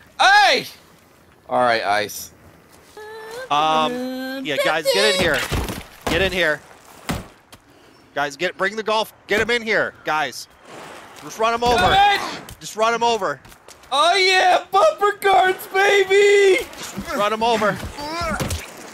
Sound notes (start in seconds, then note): 3.4 racecar noises